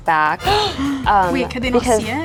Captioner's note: gasping